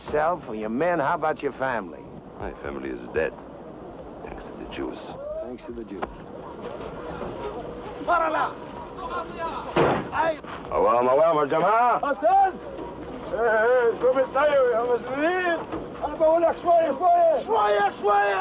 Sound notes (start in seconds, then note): 7.4 shouting in Arabic; 9.7 thud